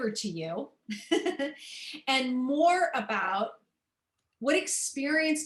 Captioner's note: laughter